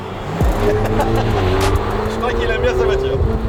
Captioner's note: laughter